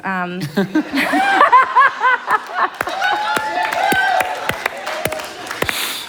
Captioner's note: laughter and Cheers